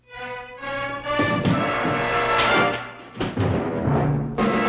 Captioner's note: footsteps thudding; dramatic music